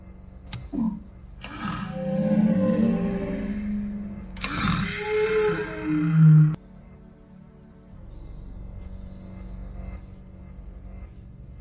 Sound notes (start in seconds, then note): 3.1 dinosaurs roar in distance